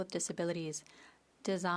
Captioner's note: speaking French